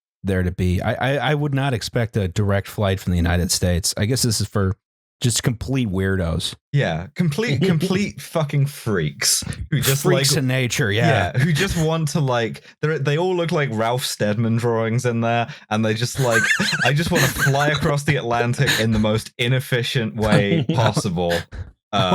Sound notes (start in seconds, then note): 16.0 laughs; 20.1 laughs